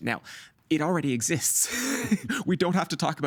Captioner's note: chuckling